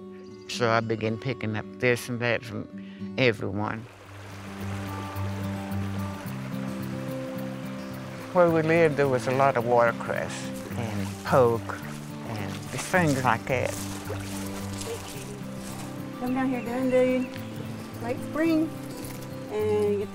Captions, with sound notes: so I began picking up this and that from everyone. (Stream gurgling) Where we lived, there was a lot of watercress and poke and things like that. (Wet gravel sloshes underfoot) WOMAN>> Come down here in late spring and get the